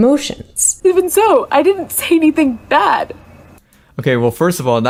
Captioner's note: choked up